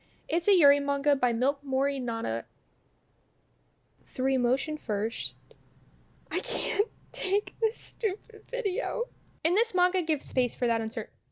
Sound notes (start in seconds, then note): 10.2 thunder